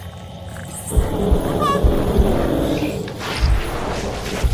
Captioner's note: woman gasping; creature chittering